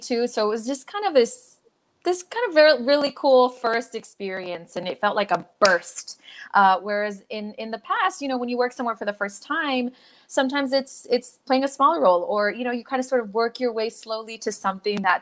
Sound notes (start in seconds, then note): none